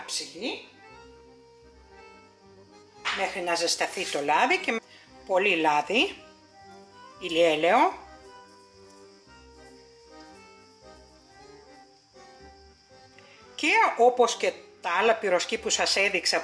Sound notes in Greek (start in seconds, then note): 8.2 σιγή